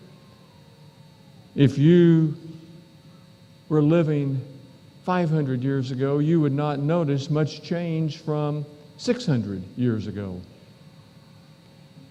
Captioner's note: echo